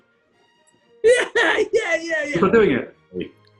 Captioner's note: laughs